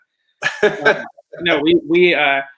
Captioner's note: chuckles